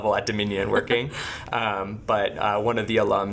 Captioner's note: laughing